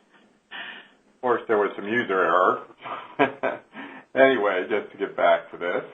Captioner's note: chuckles